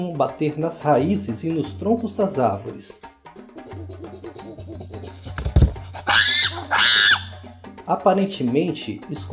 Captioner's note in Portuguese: Escuta-se a batucada do chimpanzé seguida de gritos altos